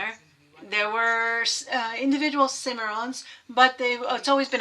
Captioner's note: speaking foreign language